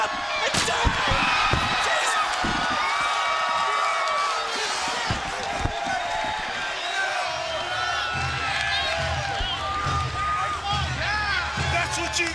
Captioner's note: crowd cheering